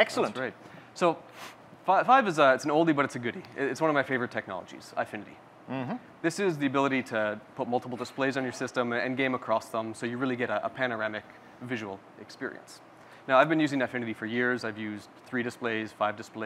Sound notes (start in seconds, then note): none